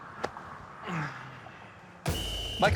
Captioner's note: sighs; whistle blows